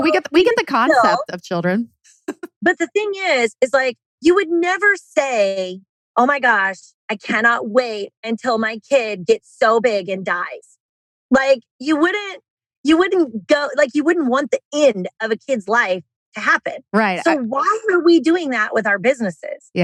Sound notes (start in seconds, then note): 1.7 laughs